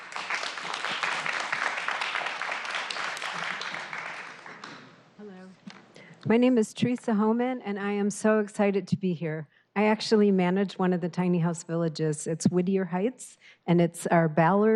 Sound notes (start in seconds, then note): 4.5 applause